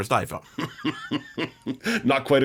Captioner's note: laughs